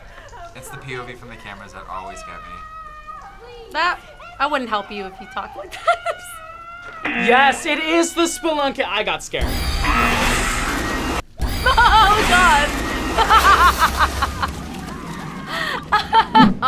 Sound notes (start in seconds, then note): 6.5 laughs; 7.0 buzzer; 9.4 tense music; 9.6 buzzer; 12.7 buzzer; 13.0 laughs